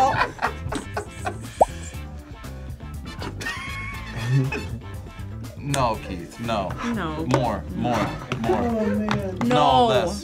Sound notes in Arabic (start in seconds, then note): 0.0 يضحك; 3.2 تضحك